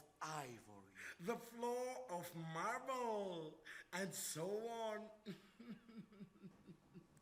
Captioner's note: laughs